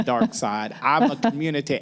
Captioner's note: laughter